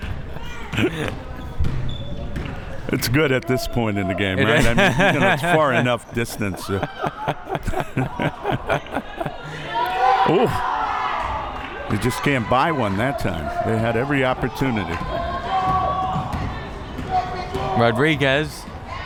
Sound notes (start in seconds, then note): 4.3 laughs; 7.5 both laughs